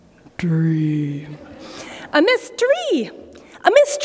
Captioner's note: laughter